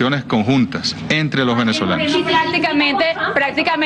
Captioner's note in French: plusieurs voix